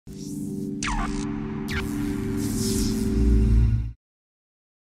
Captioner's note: electricity buzzing